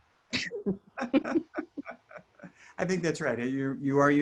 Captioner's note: both laughs